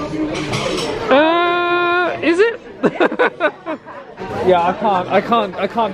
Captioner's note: laughs